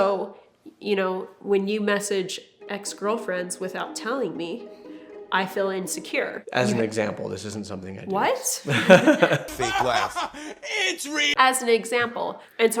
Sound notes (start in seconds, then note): 8.6 both laugh; 8.6 laughs